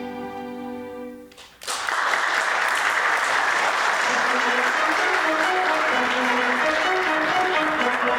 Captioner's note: applause